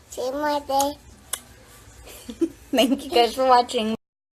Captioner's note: kisses